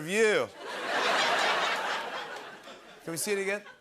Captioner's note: laughter